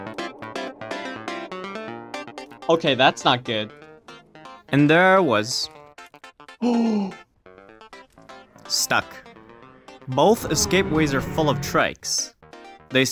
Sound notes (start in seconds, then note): 7.9 gasp